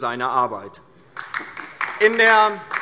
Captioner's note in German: Beifall DIE LINKE